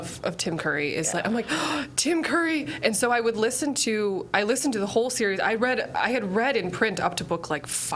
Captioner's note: gasps